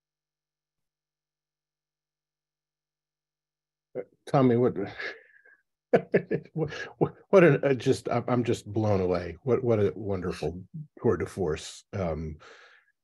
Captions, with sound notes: - Tommy, (chuckling) I'm just blown away. What a wonderful tour de force.